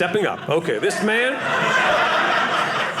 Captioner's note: audience laughing